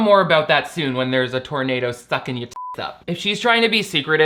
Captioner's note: beep